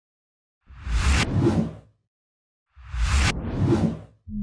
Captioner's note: logos whooshing